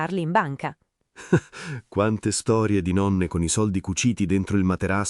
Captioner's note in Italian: Haha